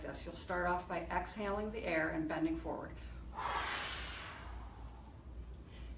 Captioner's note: exhales strongly